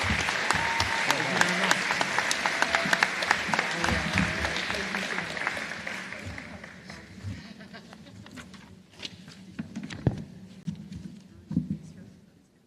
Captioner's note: applause